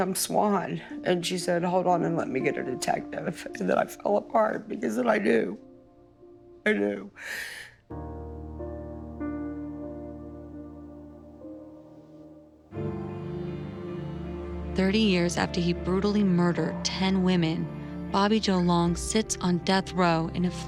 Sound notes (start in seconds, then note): 7.0 sobs; 8.3 somber music